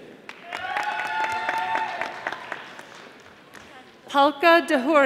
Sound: audience applauding

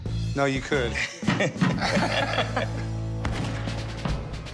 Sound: laughing; gunshot; drum music

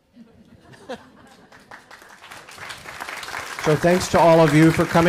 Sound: audience chuckles and claps

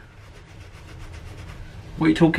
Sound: finger scratching

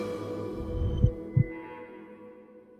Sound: heartbeat

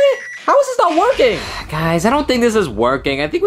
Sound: Luigi sighing

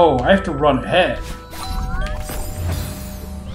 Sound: doorbell

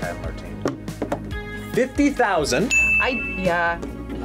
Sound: bell rings

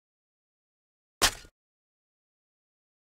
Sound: sound of shovel stab

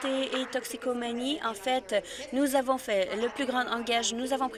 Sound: applause

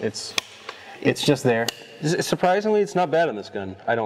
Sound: gun click

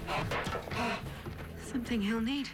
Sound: panting

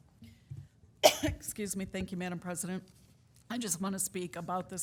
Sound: coughs

